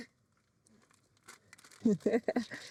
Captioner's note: laughing